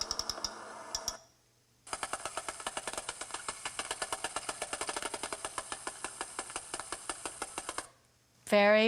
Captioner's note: clicking varies in speed; low-pitched rapid clicking sound